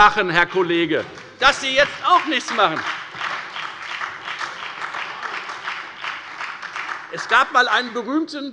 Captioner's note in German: Beifall bei der FDP und bei Abgeordneten der SPD